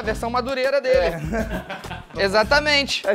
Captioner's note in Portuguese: risadas